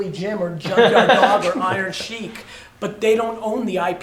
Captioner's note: laughter